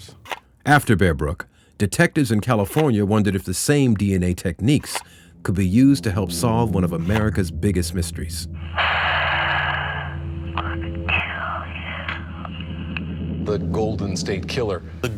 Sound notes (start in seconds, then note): 8.7 exhaling forcefully; 10.7 whispering